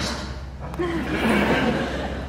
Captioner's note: laughs